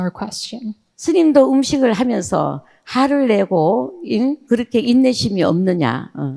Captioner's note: speaking in foreign language